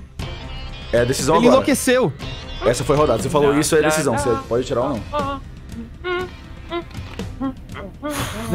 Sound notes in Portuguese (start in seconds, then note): 5.3 cantarolando